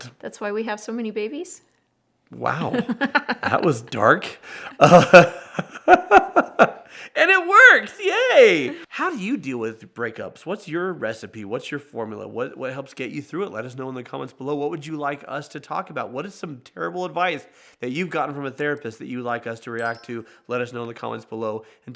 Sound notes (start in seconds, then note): 2.5 laughs